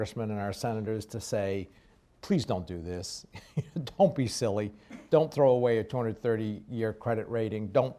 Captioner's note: laughs